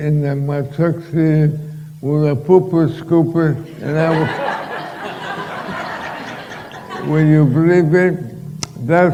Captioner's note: laughter